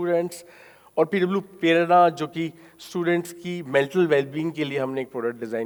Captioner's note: speaking in foreign language